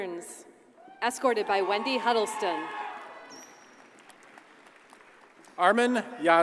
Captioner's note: audience cheers and applauds